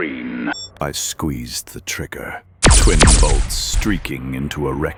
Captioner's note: weapons firing